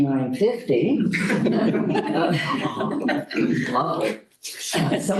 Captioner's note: laughter